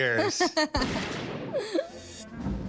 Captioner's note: laughs